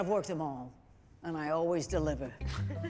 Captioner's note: all chuckling